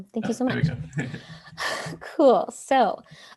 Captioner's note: laughs